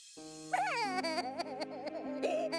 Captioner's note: sobbing